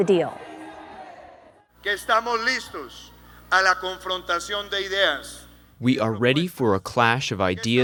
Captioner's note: through translator